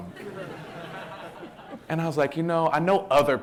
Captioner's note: audience laughing